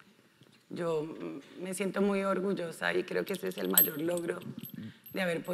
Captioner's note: speaking in foreign language